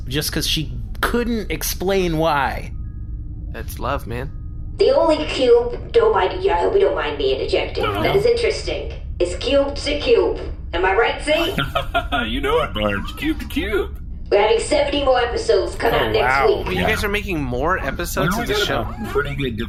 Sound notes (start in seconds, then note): 11.3 laughs